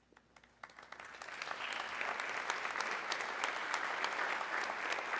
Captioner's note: audience clapping